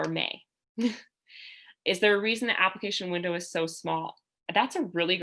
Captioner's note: laughter